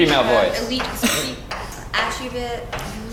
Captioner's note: laugh